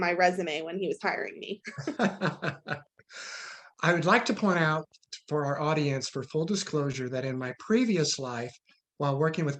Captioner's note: laughs